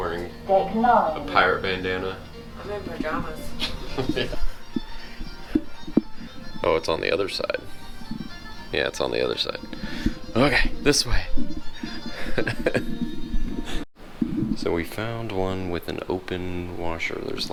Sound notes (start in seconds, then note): 3.0 laughs; 11.4 laughs